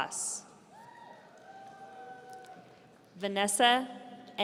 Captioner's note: audience cheering